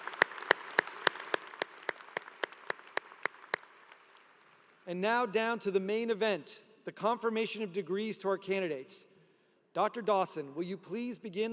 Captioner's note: applause